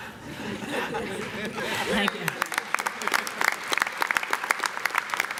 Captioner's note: audience laughing and clapping